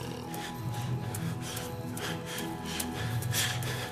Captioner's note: loud panting